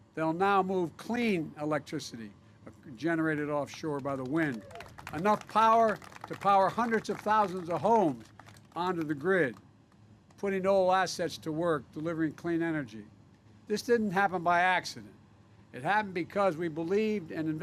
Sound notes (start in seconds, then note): 3.7 applause